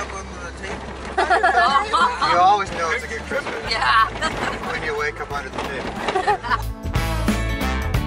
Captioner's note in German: Gelächter; Lachen